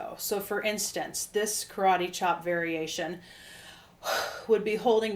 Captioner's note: sharp exhale